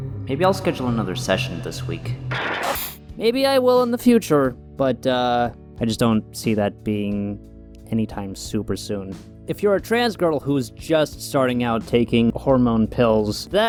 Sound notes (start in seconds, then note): 0.0 sighs; 2.2 static